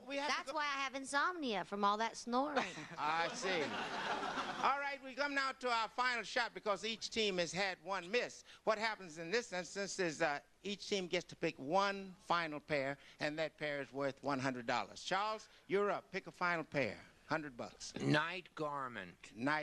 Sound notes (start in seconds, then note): 2.5 laughter